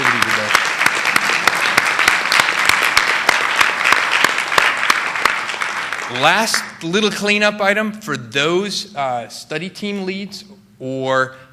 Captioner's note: applause